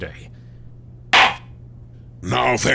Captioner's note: gavel slams!